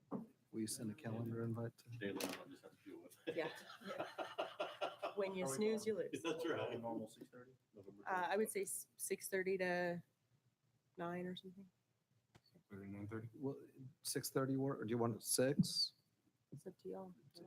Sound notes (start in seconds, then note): 3.2 laughing